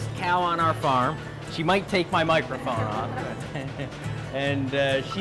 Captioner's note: laughs